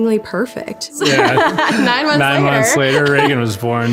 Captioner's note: laughs